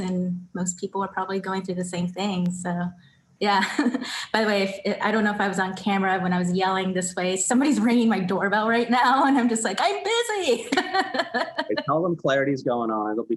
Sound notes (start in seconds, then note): 10.4 laughs